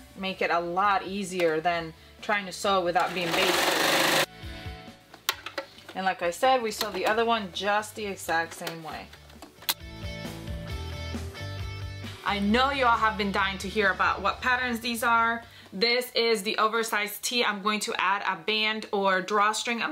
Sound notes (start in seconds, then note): 3.0 sewing machine runs; 9.6 upbeat music plays